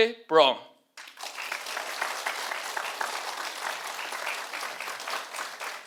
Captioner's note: audience applauding